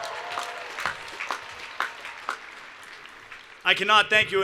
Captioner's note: cheers and Applause